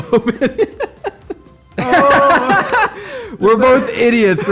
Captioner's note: laughs